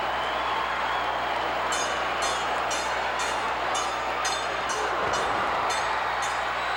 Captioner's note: audience cheering continues; bell clanging continues